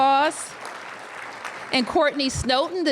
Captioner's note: applause